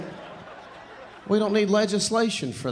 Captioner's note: audience laughing